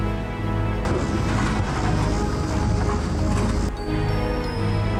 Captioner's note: metal clunks